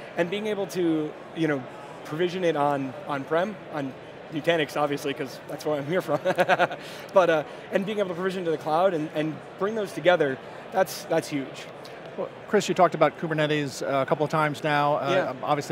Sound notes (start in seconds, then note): 6.4 laughing